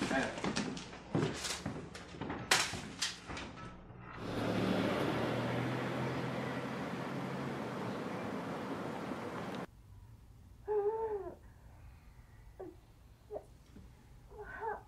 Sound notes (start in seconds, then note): 10.8 woman moaning